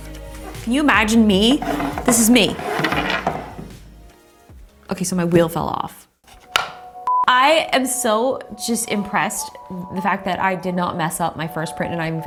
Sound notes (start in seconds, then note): 6.3 wheel snaps in place; 7.0 beep